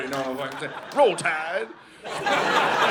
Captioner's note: audience laughing